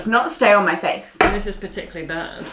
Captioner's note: banging